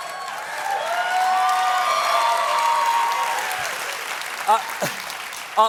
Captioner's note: cheers and applause